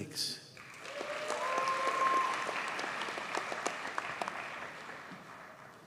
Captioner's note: audience cheers and applauds